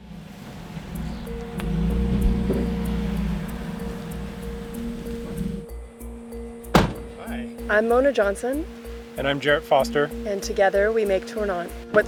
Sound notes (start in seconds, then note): 0.2 car engine humming; 6.6 door slamming